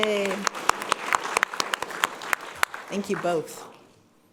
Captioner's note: people clapping